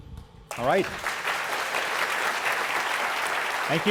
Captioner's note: applause